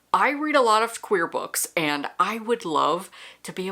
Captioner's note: none